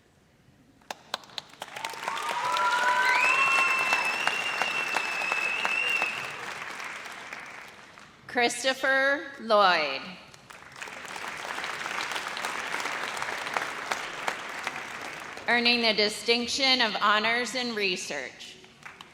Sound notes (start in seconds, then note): 0.8 audience applauds; 10.3 audience applauds